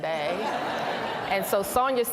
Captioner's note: laughter